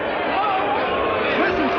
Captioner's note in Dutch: schreeuwend